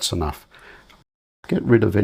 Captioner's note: silence